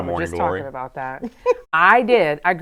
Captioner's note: laughing